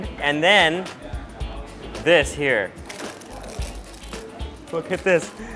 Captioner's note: pappad crunching